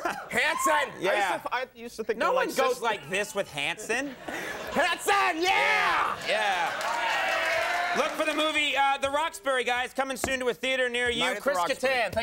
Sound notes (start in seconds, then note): 0.0 Conan laughs; 7.5 audience cheering